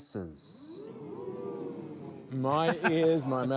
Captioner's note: all exclaim